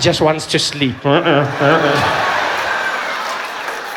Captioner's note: sound of a vuvuzela